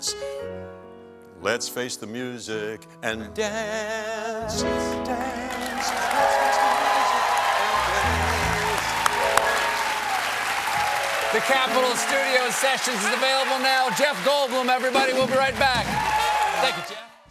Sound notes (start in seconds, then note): 6.9 cheers and applause